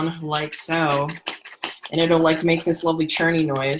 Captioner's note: cleanser sloshing